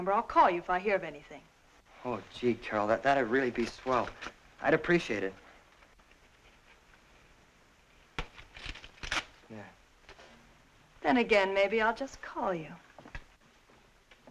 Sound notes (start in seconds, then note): 8.2 paper tearing